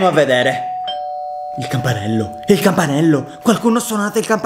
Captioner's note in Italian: campanello